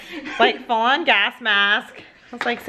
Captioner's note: laughter